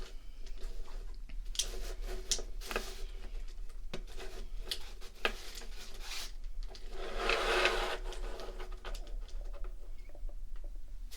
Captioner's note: rummaging around